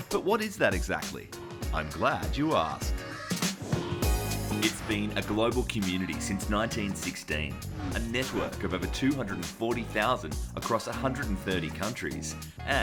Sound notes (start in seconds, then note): 3.4 whooshing